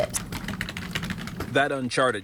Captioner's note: keys clattering